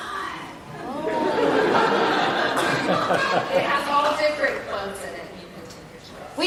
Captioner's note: laugh